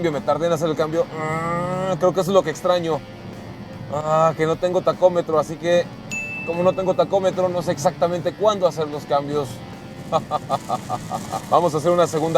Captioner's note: laughter